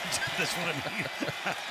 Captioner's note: laughter